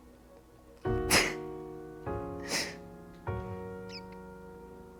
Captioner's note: chuckles; soft music